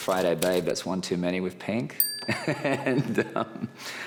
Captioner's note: laughs